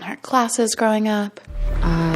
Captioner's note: soundbite of tv show, "the bachelorette"